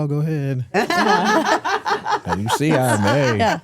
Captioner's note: hosts laughing